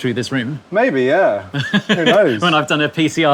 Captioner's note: laughs